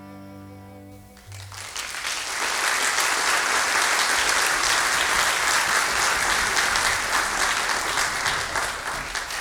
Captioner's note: music out. Applause